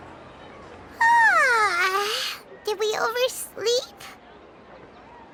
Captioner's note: yawn